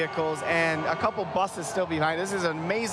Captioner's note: applause